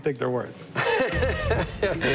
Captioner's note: laughs